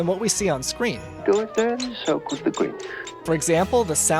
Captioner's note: noises of marker scratching a balloon